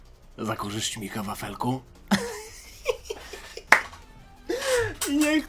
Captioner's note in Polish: śmiech